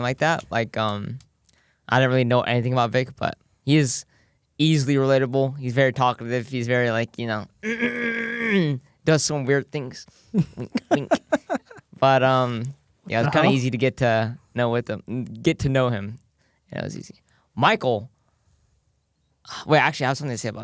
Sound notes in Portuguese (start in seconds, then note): 7.6 limpa a garganta; 10.3 risos